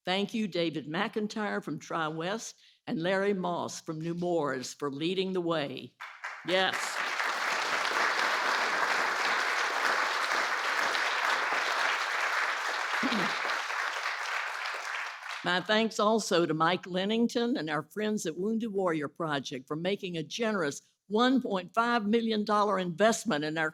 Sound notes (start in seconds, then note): 9.3 applause